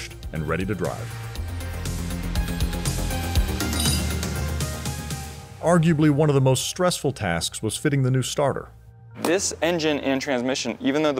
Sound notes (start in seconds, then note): 1.7 electronic music playing; 3.6 metal clinking